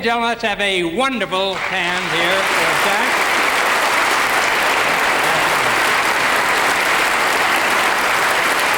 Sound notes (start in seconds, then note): 1.5 audience applauding